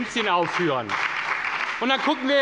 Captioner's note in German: Beifall bei der SPD und dem BÜNDNIS 90/DIE GRÜNEN